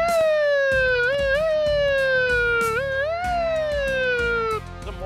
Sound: siren sound effect

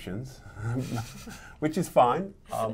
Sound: laughs

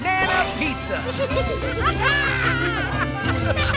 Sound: monkey noises; laughing

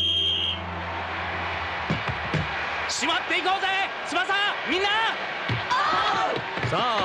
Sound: applause

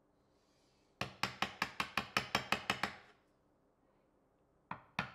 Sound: hammer banging

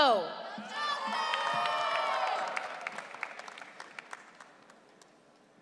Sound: audience cheering

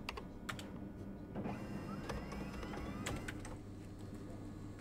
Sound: keyboard clacking; printer whirring

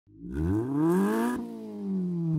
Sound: engine revs

